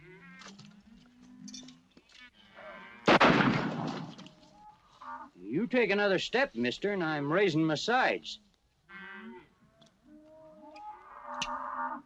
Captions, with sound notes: [ GUNSHOT ] You take another step, mister, and I'm raising my sights. [ CATTLE MOOING ]